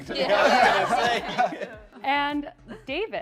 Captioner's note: laughter